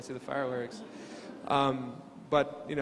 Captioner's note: crowd laughing